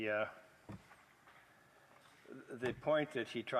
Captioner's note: speaking French